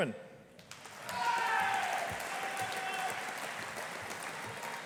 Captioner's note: audience applauding